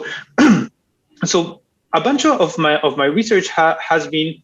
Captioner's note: clears throat